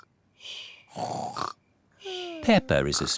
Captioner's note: snores